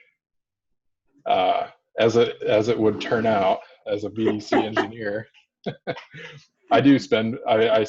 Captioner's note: laughs